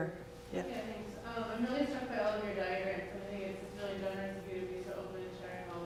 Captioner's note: woman mumbles off-microphone